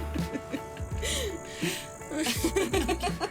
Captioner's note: laughing